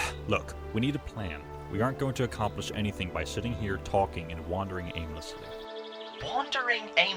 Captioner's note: sighing